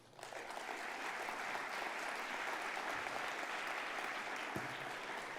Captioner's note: applause